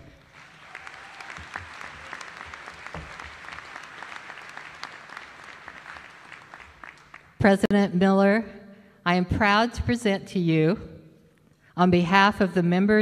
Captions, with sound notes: please join me in welcoming WSBA President, Jake Miller (applause) President Miller, I am proud to present